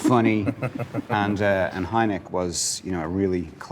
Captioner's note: laughs